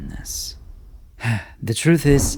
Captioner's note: sigh